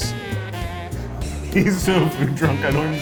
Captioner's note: laughs